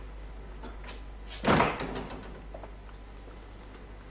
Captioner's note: front door closes